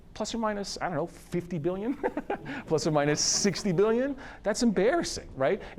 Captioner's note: laughs